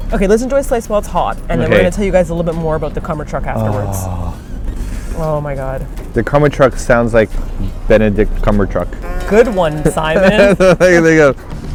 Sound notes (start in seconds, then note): 3.6 groans; 8.9 sarcastically; 9.8 laughs